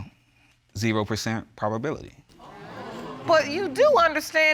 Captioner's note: audience exclaiming